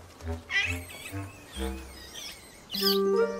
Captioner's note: screeches